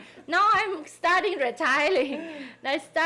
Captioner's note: people laughing